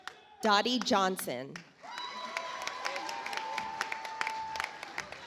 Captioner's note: audience applauds